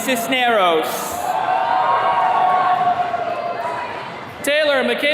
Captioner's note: attendees cheering